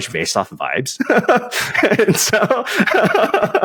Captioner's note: laughter